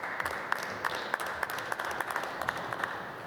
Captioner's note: applause